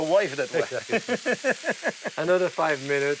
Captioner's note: laughs